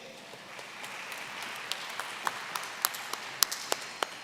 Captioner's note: applause